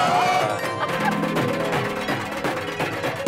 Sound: laughing

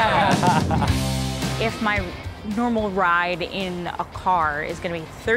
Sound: laughs

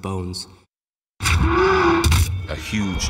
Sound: loud growl then bones crack

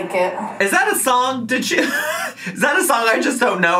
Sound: laughs

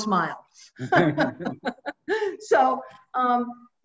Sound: laughs

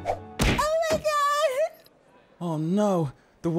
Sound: body thudding

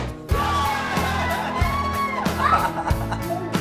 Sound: cheers; laughs

